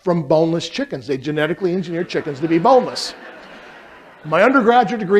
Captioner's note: laughter